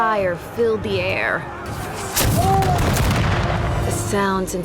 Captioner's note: cannon blasts, gunfire